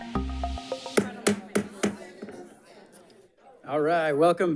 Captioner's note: attendees chattering; gavel bangs